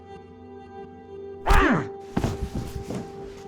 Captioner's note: punch